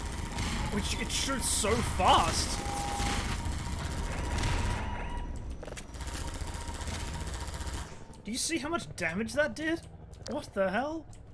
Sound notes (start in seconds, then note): none